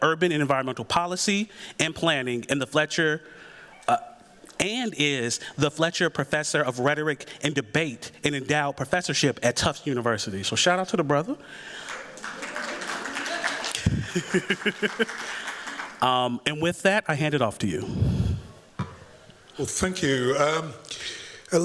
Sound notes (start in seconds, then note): 11.7 applause